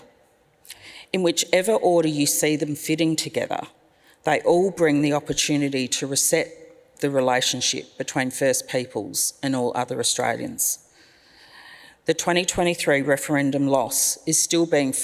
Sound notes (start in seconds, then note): none